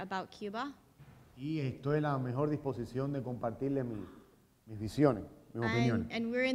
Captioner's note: speaking in Spanish